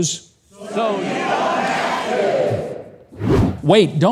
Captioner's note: crowd; air whooshing